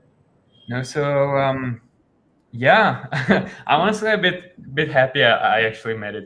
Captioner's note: chuckles